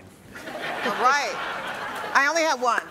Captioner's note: audience laughs